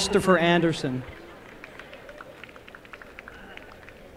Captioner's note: applause